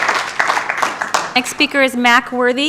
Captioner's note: applause